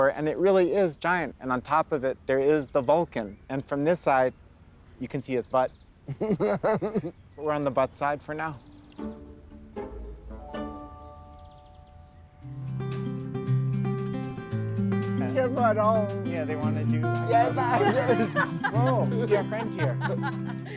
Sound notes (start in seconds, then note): 6.0 laughs; 12.4 bright folk music; 16.6 chatter; 17.2 group laughs